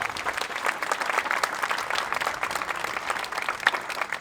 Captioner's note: applause